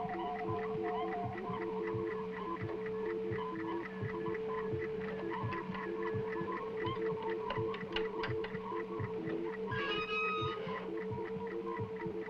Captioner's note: whirring electronics